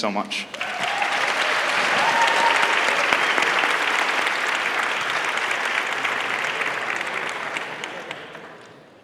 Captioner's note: applause